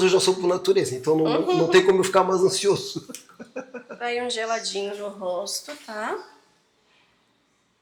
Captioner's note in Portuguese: risadas